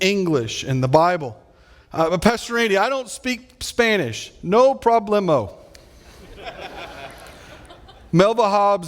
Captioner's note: audience laughing